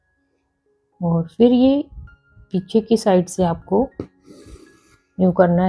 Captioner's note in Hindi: नाक से की जाने वाली आवाज़